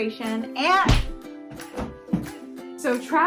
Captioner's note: hits the ground